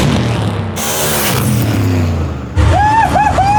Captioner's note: cars buzzing; cars zooming